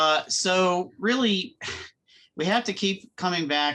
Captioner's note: chuckles